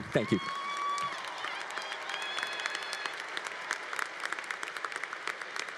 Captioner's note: congregation applauding